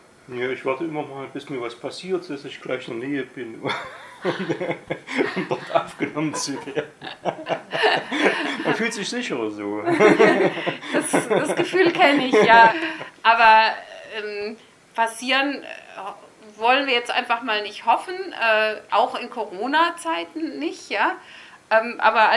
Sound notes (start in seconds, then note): 8.3 laughing